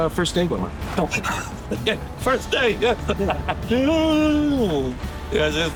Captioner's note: laughs